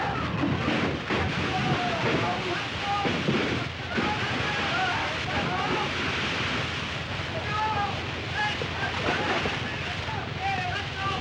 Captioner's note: explosion; sounds of chaos & destruction; men screaming